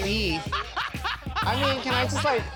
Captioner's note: chuckles